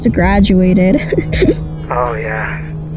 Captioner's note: chuckles